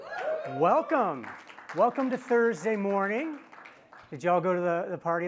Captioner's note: applause